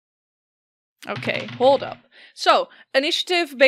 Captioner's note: dice clacks